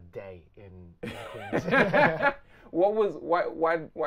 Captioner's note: both laughing